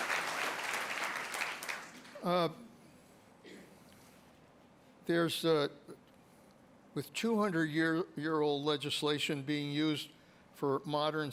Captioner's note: applause